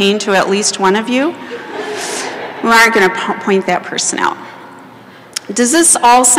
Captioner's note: laughter